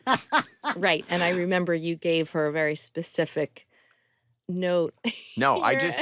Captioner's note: laughs; chuckles